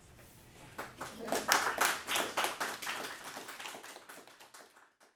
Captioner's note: applause